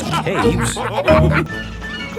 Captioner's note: all laughing